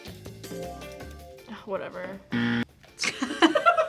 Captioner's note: upbeat music; buzzer rings; both laugh